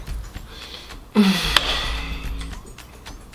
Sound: sighs

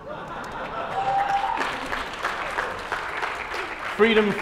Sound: laughter and applause

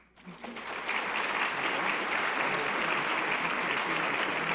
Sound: audience applause

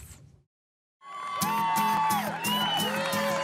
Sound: cheering; uplifting guitar music

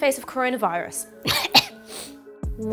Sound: coughing

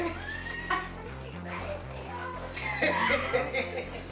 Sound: all laughing

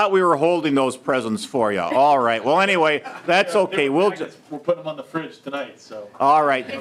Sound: laughing

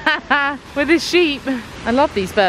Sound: laughing

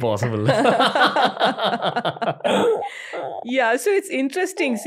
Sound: laughter

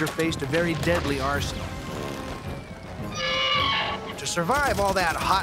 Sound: gun shot

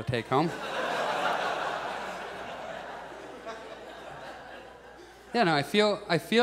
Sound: audience laughs

